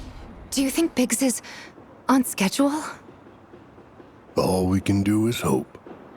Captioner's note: none